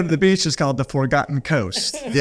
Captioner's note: laughing